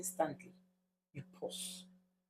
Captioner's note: paause